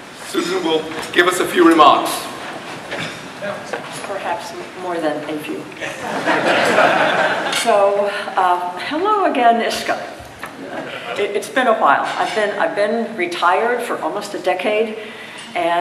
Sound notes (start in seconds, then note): 5.8 audience laughs